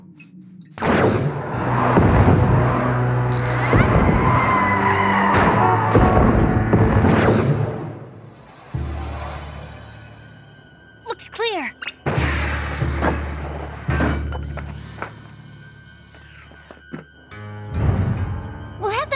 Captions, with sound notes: [heavy footsteps advancing] Looks clear.